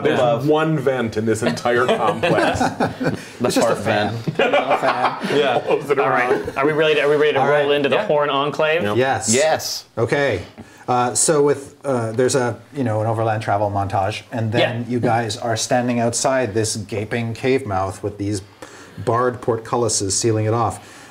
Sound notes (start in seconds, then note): 4.1 laughing